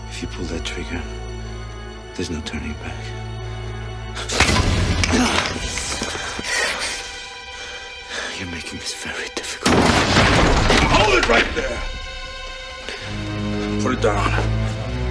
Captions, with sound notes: If you pull that trigger, there's no turning back. -(Paul grunts) -(Meg pants) Now you're making this very difficult. (door slams) Hold it right there. Put it down.